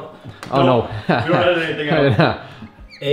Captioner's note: laughing